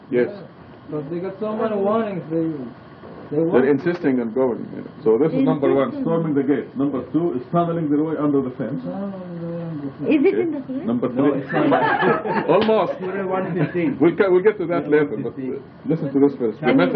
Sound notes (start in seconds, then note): 11.4 laughter